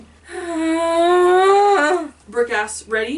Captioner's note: big sigh